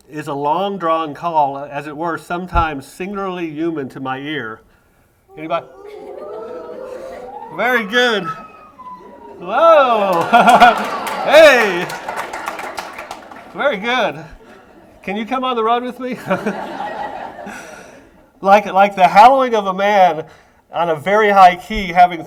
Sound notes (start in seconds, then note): 6.0 audience attempts loon call